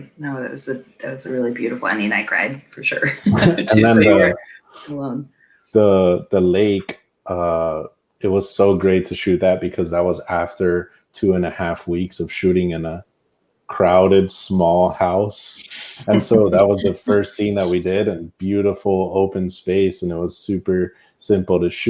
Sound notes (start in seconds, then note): 3.0 laughs